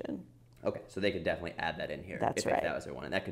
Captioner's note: voiceover